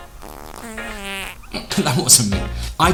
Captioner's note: fart sound